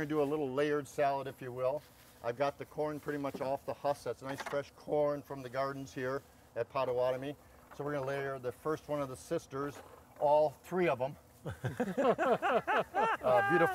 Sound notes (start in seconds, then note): 11.4 men laughing